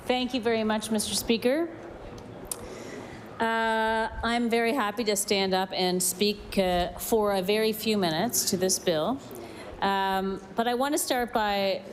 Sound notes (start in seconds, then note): none